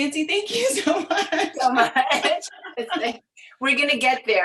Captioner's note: laughing